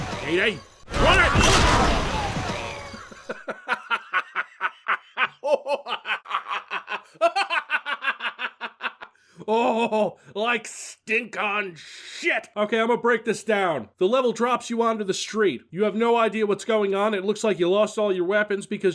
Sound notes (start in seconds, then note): 2.5 laughs like a maniac